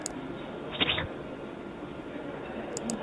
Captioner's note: Squelch